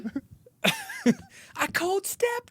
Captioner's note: laughing